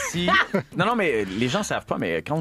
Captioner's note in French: rire